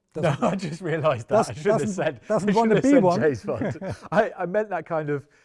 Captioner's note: laughs